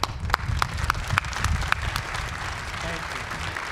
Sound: applause

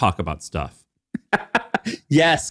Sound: laughing

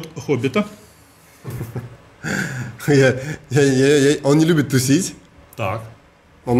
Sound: chuckles

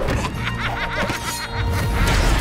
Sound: laughing

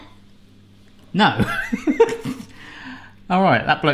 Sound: laughs

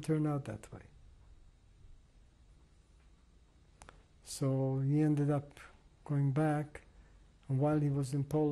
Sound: pauses for 3 seconds

